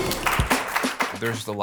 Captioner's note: applause